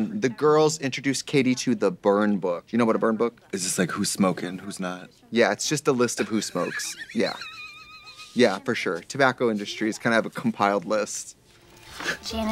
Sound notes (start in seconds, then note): 6.4 Katya chortles